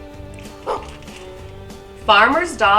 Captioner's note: dog barks